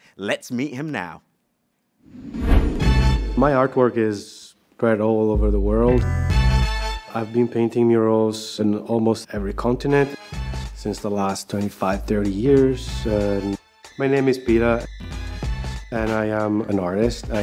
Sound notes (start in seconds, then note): 2.0 screen whooshes; 2.8 festive music